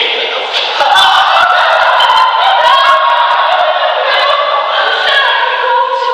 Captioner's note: laughter